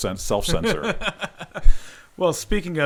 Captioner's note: laughing